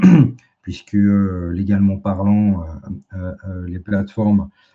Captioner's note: raclement de gorge